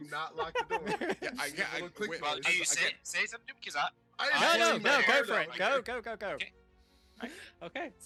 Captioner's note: laughing